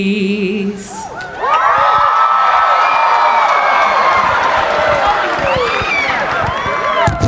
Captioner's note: cheering; audience applauding